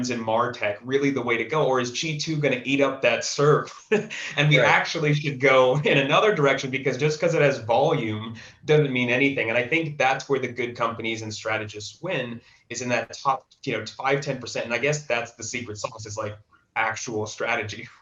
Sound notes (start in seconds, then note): 3.4 chuckles